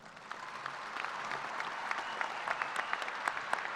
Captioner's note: applause